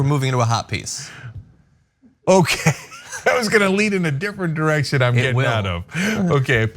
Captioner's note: laugh